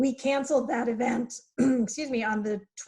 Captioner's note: clears throat